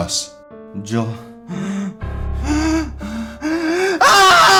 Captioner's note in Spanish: Frask respira profundo